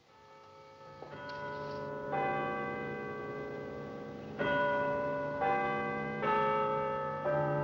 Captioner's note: bell Chiming